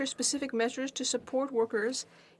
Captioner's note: speaking French